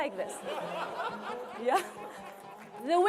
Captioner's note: laughter